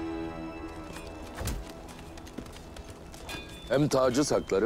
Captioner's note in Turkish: At ayak sesleri